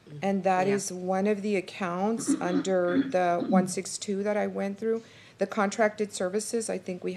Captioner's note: clears throat